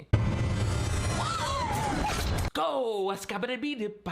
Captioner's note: dramatic music; Rosa gasping